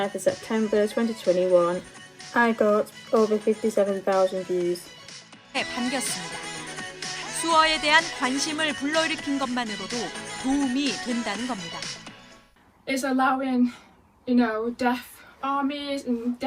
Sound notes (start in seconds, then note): 5.7 woman speaking in Korean